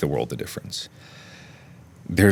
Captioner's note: inhale